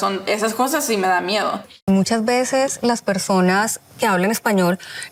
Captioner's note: speaking Spanish